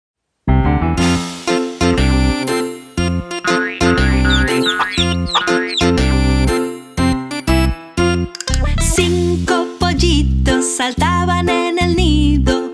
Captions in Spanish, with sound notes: (Música Alegre) (Sonido de pollitos) Cinco pollitos saltaban en el nido